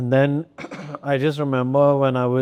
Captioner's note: clears throat